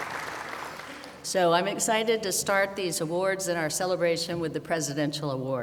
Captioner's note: applause